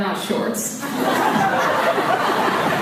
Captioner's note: laughs